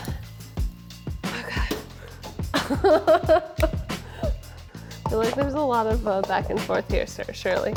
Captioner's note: laughs